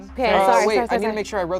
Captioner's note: overlapping chattering